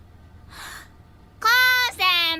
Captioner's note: inhale